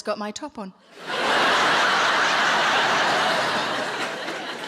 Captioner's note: audience laughing